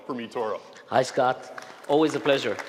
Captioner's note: applause